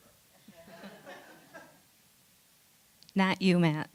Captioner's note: laughter